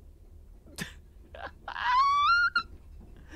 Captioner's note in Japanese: 何とも言えない笑い声